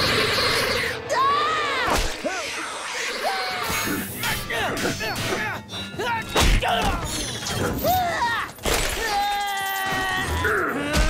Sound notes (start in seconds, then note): 0.0 screaming; 3.3 grunting; 8.9 screaming; 10.2 grunting